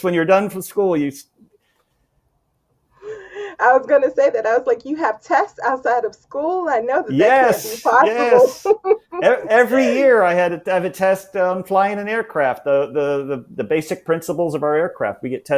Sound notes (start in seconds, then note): 8.9 chhuckles